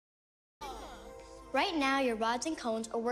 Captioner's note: kids exclaiming, chattering